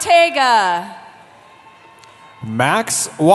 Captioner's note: cheering